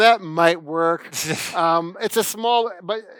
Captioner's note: laughs